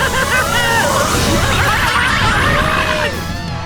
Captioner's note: yelling